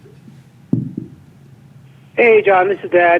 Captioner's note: voice On Phone